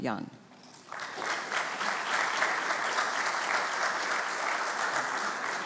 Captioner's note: congregation clapping